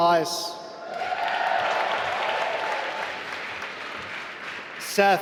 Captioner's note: applause